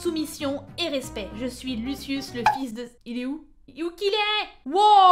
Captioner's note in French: pouf